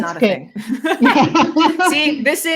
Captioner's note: both laughing